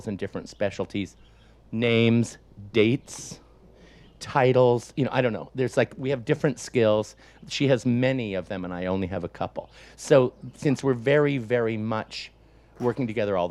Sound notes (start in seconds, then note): none